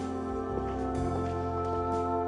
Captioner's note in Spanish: Susurra